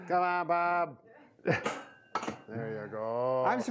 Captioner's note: metal clanking